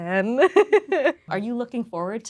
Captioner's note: Lola laughing